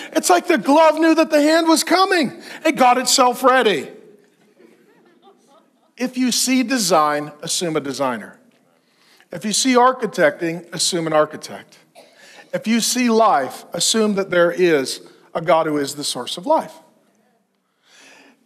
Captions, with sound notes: It's like the glove knew that the hand was coming. It got itself ready. (congregation laughs) If you see a design, assume a designer. If you see architecting, assume an architect. If you see life, assume that there is a God who is the source of life.